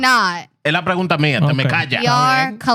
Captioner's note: speaking In Foreign Language